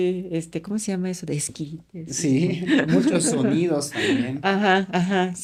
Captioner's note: laughs